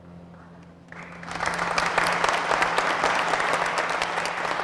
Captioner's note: applause